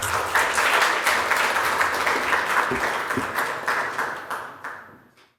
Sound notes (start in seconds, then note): 3.3 applause